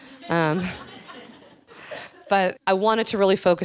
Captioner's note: audience laughing